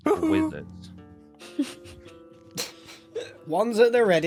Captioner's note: snicker